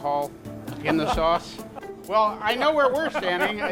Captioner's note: laughs